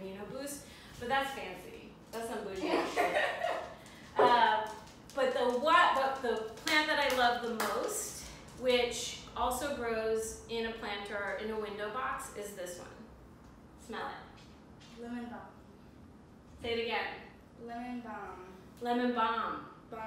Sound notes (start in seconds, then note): 2.6 laugh; 6.5 clap